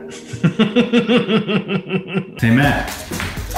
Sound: both laughing

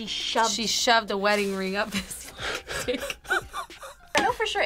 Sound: laughs

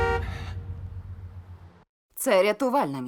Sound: horn blares; Klaus panting

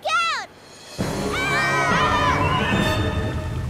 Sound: screaming

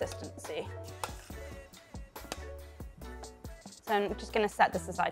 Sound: soft upbeat music; spoon clanking

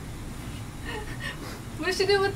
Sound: laughs

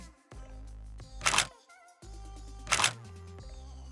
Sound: camera shutter clicking; shutter click

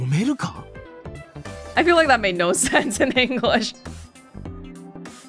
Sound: chuckles

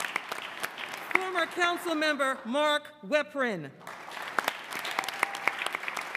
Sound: applause

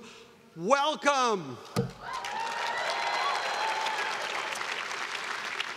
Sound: students cheering

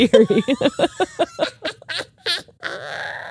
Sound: both laugh

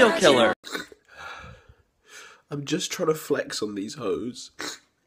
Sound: sniff

